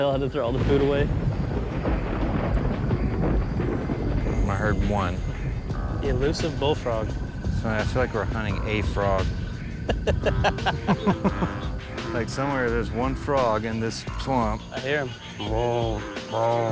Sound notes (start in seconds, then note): 0.1 thunder rumbling; 9.8 laughing